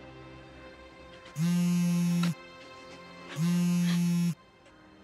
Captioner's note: Mobile vibrating